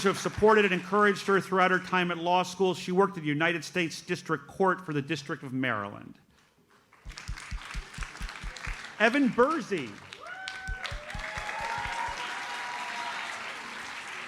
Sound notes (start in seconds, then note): 7.0 audience applauds; 10.5 audience cheers and applauds